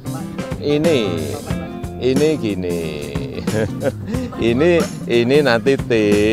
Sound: laughing

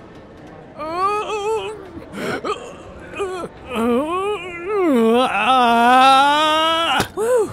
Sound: the sounds of pain and suffering

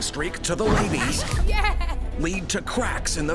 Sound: laughing

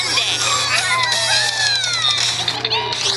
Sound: characters celebrating

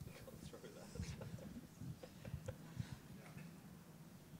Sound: man laughing

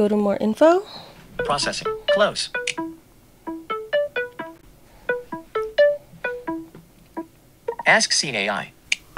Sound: Seeing AI sounds

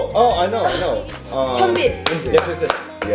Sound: hands clapping

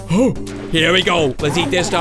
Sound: gasps

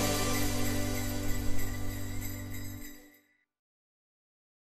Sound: upbeat festive music; sleigh bells ring

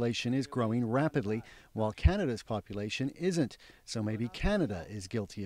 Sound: speaking foreign language

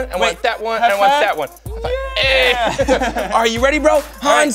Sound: laughing

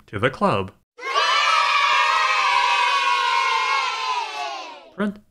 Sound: kids cheering

